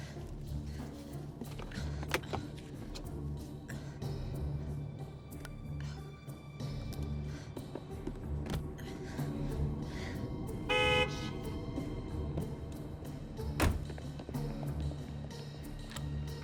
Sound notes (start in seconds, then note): 0.0 breathing heavily; 8.6 breathing heavily; 10.6 horn honks; 13.6 car door closes